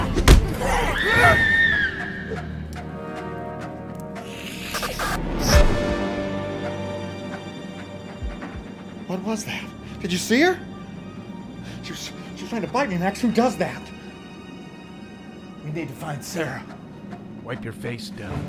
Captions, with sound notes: Yeah! (Sarra screaming) (foreboding music) (vampire hissing) (lights buzzing) What was that? Did you see her? She was, she was trying to bite me, Max. Who does that? - We need to find Sarra. Wipe your face, Dell.